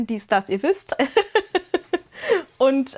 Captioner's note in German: gelächter